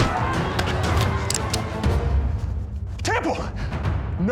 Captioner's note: cocks gun